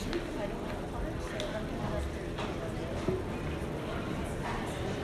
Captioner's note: crowd speaking